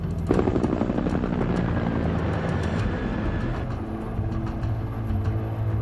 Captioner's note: rotors whirring; suspenseful music